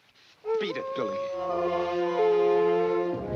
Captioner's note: dog howling; dramatic music